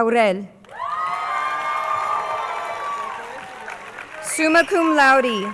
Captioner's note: crowd cheering